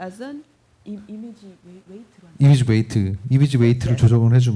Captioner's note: speaking korean